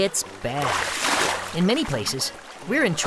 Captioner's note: can splashes